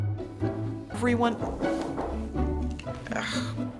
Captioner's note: knocking